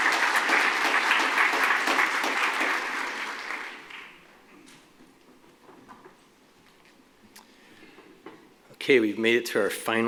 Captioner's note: applause